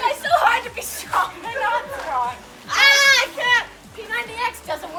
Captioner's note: screams